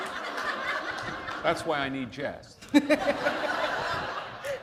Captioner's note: laughter